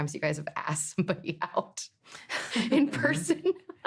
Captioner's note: laughing